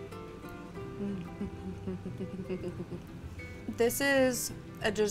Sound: giggling

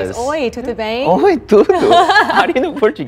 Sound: speaks in foreign language; laughs

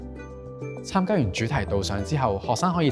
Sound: Cantonese

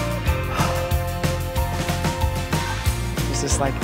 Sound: sighs

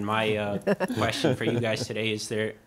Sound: panelists chuckling

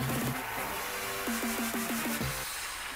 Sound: audience applauding

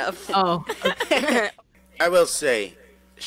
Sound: laughing

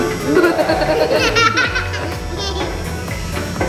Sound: kids laughing

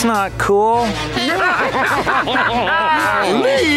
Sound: laughing

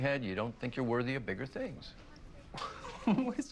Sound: laughing

